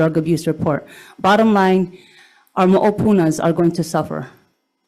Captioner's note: speaks in foreign language